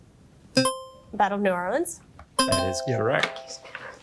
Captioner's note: bell ringing; buzzer ringing